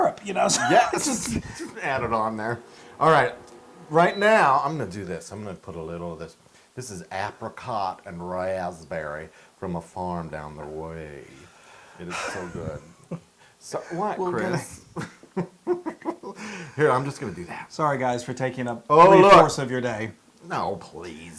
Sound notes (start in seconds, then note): 13.8 laugh